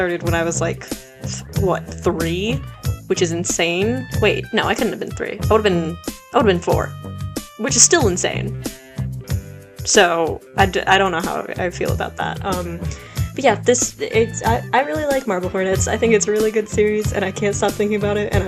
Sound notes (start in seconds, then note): 13.3 stammers